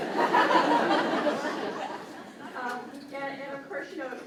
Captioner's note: crowd laughs